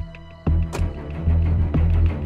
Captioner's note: Car door closing